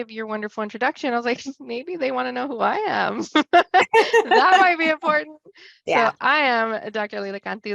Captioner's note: laughs